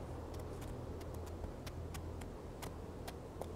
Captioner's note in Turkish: At nalı sesi